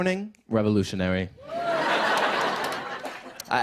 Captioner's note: laughter